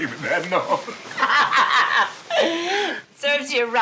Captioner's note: Betty laughing